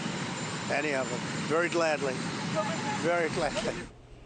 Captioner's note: reporters shouting questions